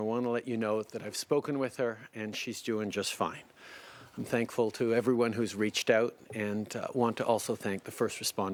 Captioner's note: speaking French